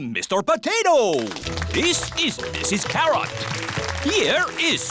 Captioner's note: applause